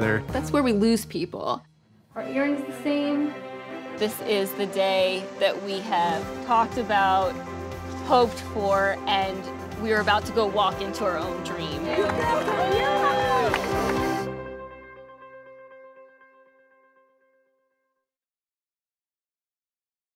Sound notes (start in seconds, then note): 11.8 cheering